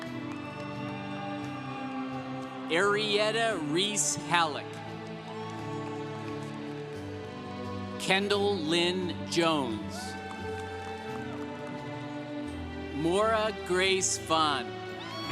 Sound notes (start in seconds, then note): 0.2 congregation applauding; 5.6 congregation cheering; 10.2 congregation cheering